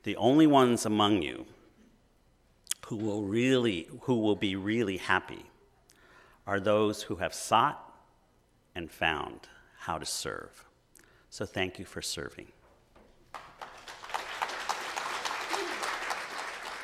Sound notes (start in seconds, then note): 13.2 clapping